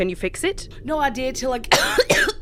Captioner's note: violent coughing fit